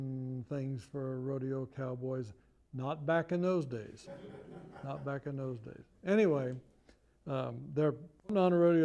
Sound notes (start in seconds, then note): 4.0 laughter